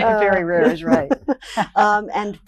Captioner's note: laughs